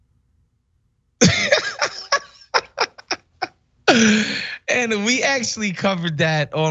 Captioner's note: laugh